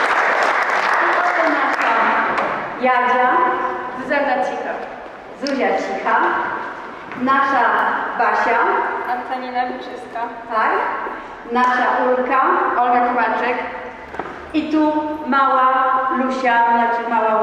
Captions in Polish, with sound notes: [Aplauz] zuia CA Nasza Basia nasza ul i